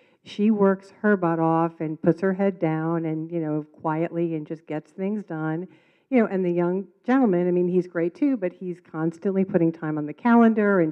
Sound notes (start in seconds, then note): none